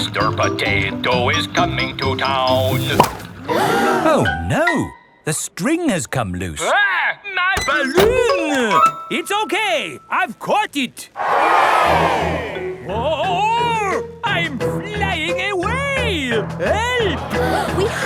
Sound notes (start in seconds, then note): 3.4 all gasp; 11.1 crowd cheers